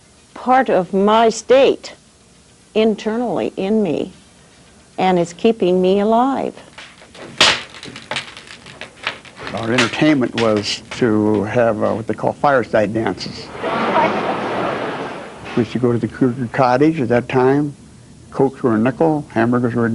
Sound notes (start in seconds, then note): 6.9 fire crackling